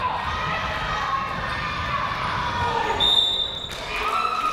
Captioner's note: cheering